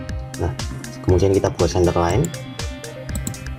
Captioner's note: click